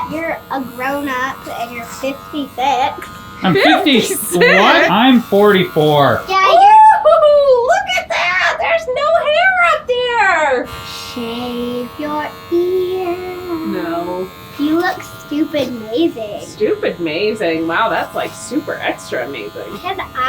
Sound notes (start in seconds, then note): 10.7 razor buzzing